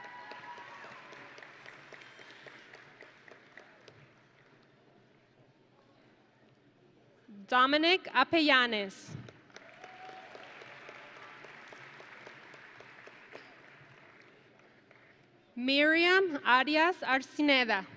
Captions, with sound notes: (audience and graduates cheering) Dominic Apellanes. (audience and graduates applauding) Miriam Arias Arcineda.